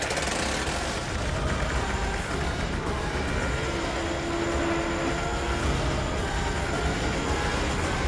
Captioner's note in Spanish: Ruido del motor